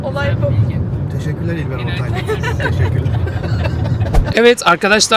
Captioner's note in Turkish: kahkaha